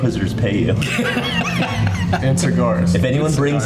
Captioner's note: all laughing